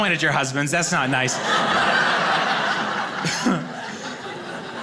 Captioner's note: audience laughing